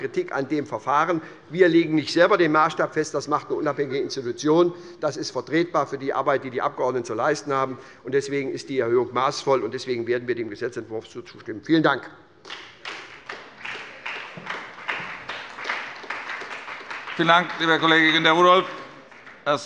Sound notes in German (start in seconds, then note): 12.4 Beifall bei der SPD